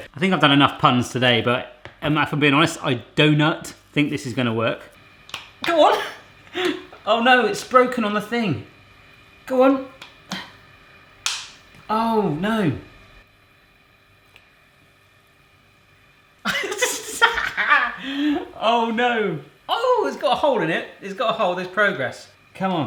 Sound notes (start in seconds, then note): 5.3 clicking; 6.5 laughing; 16.5 laughing